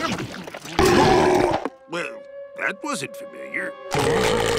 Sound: belching

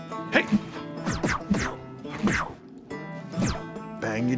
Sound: mimicking gun shots

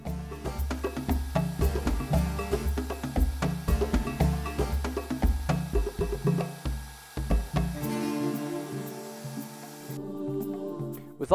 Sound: more workshop noise

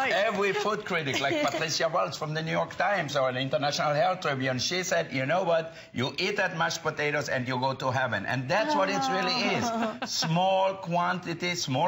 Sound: laughter

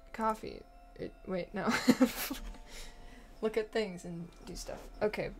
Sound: laughs

